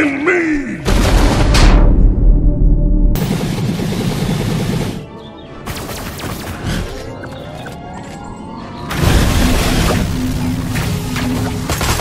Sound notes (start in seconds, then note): 2.0 music slows down; 3.4 blaster shots